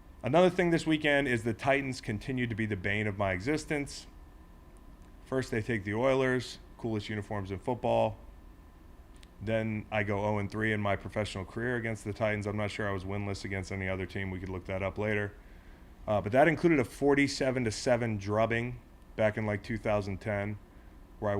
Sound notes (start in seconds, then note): none